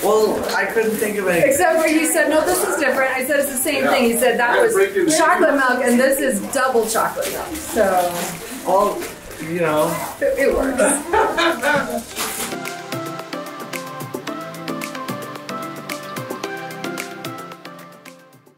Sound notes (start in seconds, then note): 10.8 laughs; 12.5 upbeat music